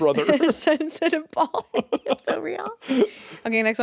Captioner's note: chuckles